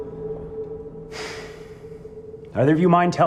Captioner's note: Jason sighs